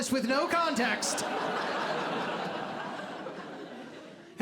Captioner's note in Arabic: ضحك